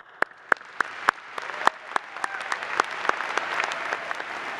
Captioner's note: applause